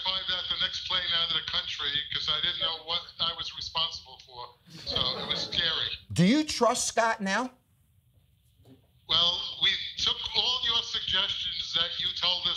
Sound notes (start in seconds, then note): 4.7 audience laughing